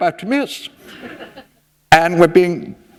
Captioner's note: laughter